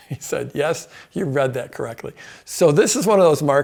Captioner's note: laughs